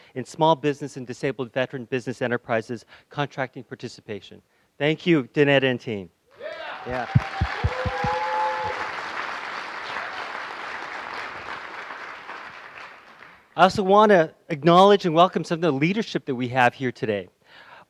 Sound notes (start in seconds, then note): 6.8 applause